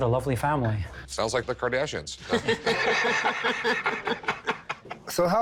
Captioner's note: laughter